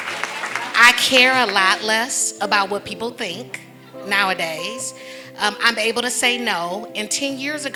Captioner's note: laughter and clapping